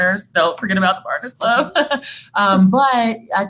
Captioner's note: laughing